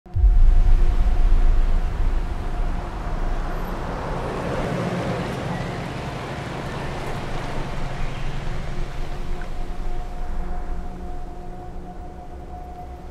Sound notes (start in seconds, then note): 0.1 calm music; 4.3 car rumbling; 7.0 dramatic music